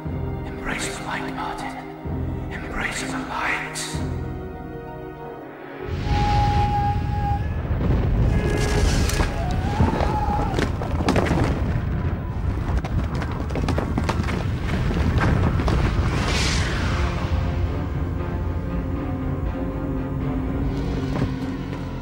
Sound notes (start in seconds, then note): 4.5 soft orchestral music; 8.1 lightning cracking; 9.3 rubble thudding; 11.1 lightning cracking; 15.9 dramatic orchestral music